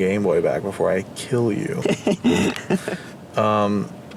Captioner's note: laughter